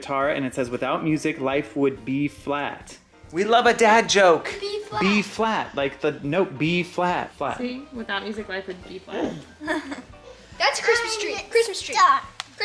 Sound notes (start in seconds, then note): 9.2 giggling